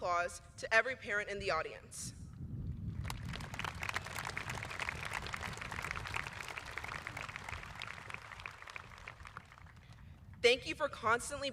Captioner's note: applause